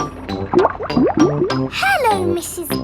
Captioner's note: bubbling